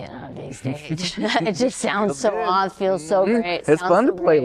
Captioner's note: laughter